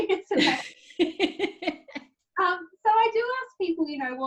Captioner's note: laughs